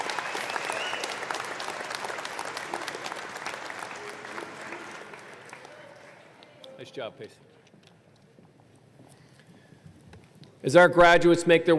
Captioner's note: applause